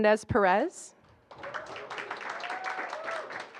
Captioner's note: applause